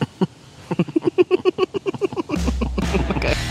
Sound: concerned Giggles

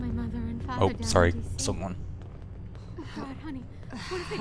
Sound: concerned murmuring

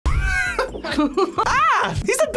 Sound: React laughs

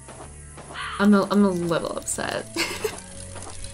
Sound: laughs

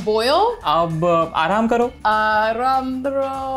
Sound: speaking in Hindi

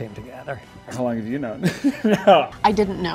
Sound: laughing

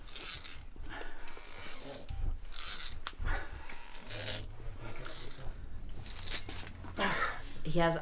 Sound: sound of rope being pulled and human effort

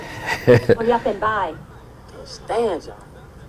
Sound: Larenz chuckles

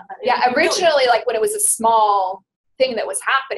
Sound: voiceover

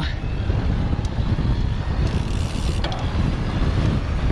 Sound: wind whooshing

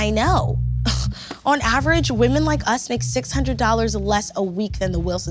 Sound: scoffs

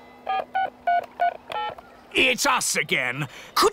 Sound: dialing

